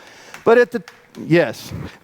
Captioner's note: audience claps